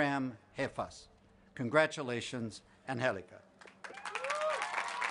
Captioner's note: appause